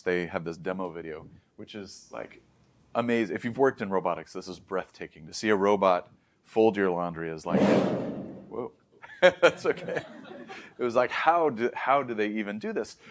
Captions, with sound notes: they have this demo video, which is like amazing. If you've worked in robotics, this is breathtaking. To see a robot, fold your laundry is like - [breathes into microphone] - Whoa. [laughing] That's okay. - [class laughing] - It was like, how do, how do they even do this?